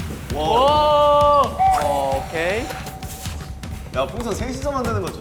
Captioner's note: blowing 1